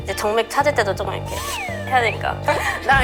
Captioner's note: fumbling